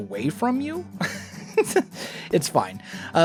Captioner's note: laughs